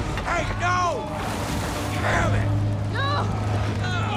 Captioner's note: yelling